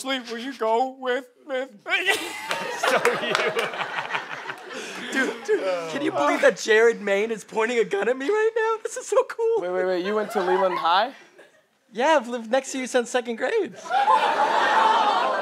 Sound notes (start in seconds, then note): 2.0 laughs